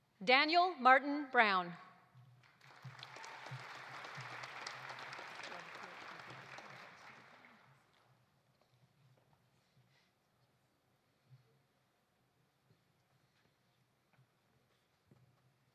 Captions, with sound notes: Daniel Martin Brown. (audience applauding)